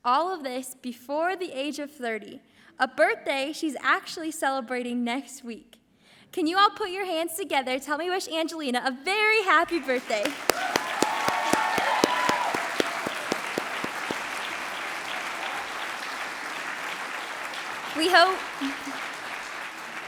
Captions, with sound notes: All of this before the age of 30, a birthday she's actually celebrating next week. Can you all put your hands together to help me wish Angelina a very happy birthday? (audience applauds) (audience cheers)